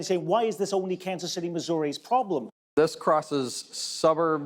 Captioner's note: none